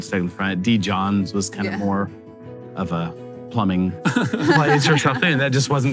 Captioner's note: laughing